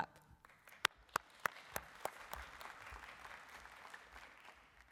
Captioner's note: applause